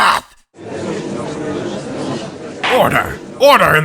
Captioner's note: gallery chattering